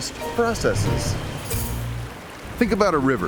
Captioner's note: water churning